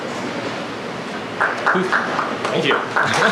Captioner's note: applause